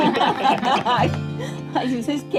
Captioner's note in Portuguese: risadas